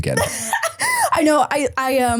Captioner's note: person laughing